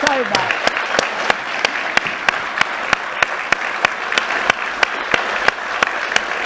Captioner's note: and audience applauding